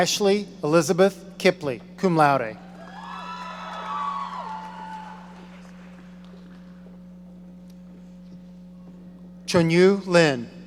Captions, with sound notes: Ashley Elizabeth Kippley, cum laude. (audience cheering) Chunyu Lin.